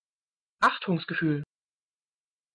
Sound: fast Pronunciation

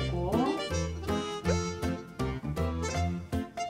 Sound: sniff sniff

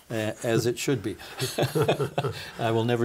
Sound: both laughing

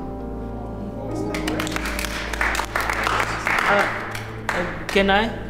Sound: applause

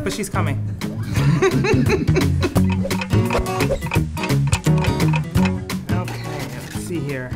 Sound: laughs

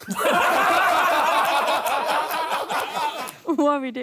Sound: laughing

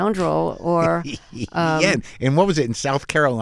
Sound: laughter

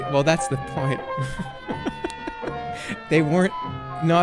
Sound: laughs

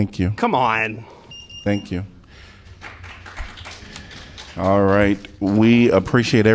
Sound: applause

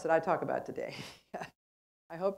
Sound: laugh

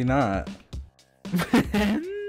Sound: laughing

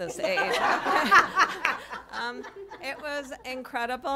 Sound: laughter

